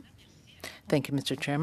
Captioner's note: speaking french